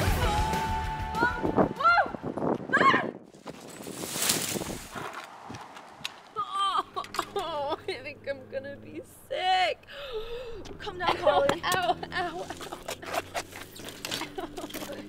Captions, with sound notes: Whoa, whoa! Ahhh!! [crash] I think I'm gonna be sick! Calm down, Carly Ow, ow, ow!